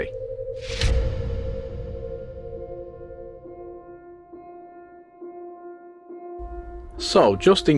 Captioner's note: sound FX